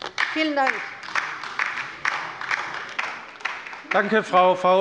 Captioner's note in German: Beifall bei der LINKEN